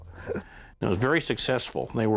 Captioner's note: chuckles